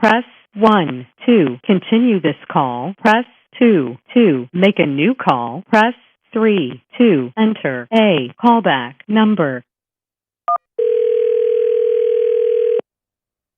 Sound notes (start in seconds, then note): 10.8 number one on telephone push, line starts ringing